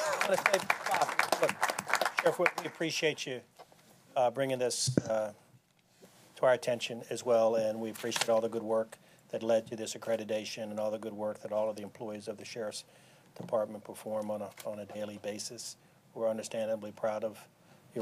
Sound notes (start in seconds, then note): 0.0 applause